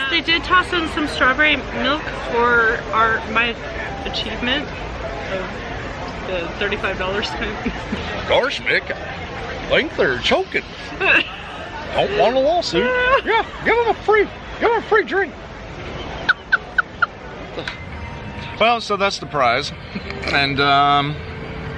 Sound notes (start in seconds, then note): 7.2 giggles; 8.7 imitating Goofy; 12.8 Imitating Mickey Mouse; 16.2 laughing; 19.7 laughing